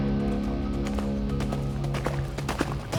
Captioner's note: horse approaching